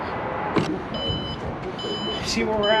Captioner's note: car beeping